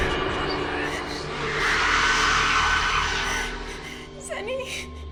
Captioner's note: suspenseful music; Sunny whispering